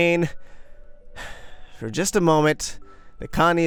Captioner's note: sighs